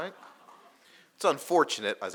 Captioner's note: audience laughing